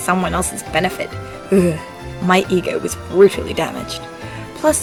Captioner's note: shudders